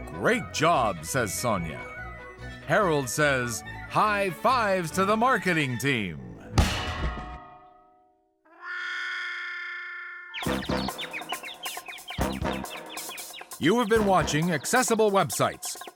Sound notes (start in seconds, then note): 6.5 upbeat music ends; 6.6 bang; 8.2 muted trumpet waah; 10.2 birds chirping